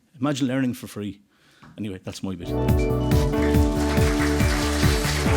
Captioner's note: applause